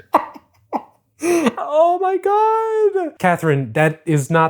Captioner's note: laughs